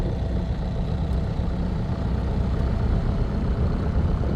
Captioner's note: airplane engine hums